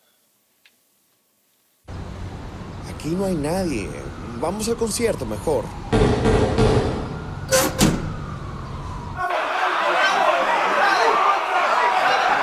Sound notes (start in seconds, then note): 3.8 police Siren; 5.3 police Siren; 5.9 knocking; 8.2 police Siren; 9.1 cheering; 9.2 shouting